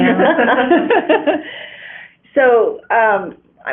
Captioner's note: laughter